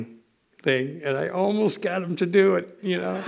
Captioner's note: laughter